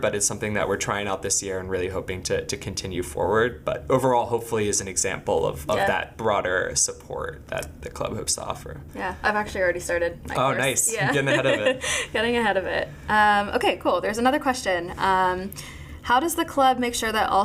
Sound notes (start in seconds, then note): 10.8 laughing